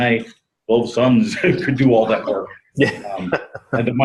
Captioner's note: laughs